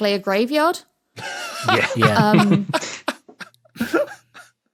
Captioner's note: laughs profusely